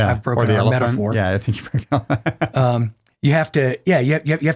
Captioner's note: laughs loudly